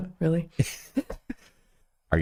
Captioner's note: laughing